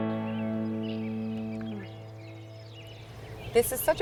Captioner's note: birds singing